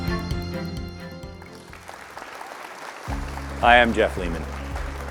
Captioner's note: audience applauding